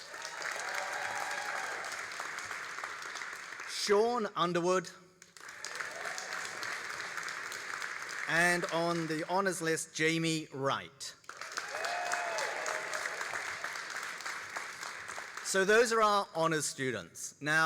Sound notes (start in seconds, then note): 0.0 all applauding and cheering; 5.2 all applauding; 11.2 all applauding and cheering